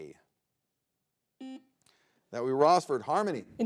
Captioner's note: button blips